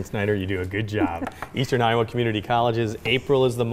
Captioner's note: pen knocking on table